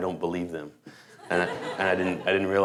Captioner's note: laughter